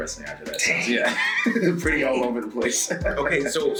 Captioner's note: laugh